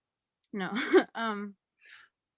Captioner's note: laughs